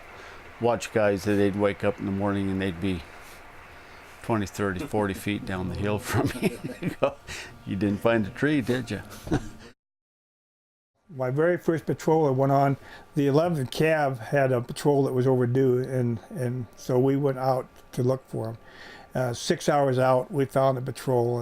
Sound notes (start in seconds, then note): 4.6 laughs